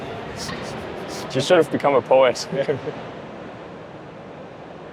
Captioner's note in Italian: ride